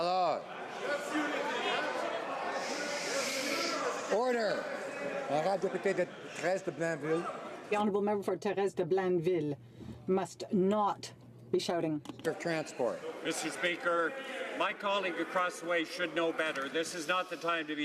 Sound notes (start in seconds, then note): 5.4 speaking French